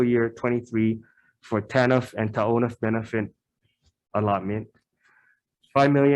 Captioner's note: speaking foreign language